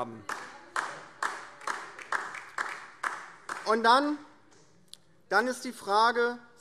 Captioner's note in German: Beifall DIE LINKE